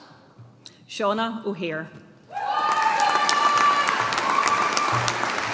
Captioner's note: audience applauding